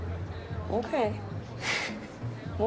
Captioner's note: chuckles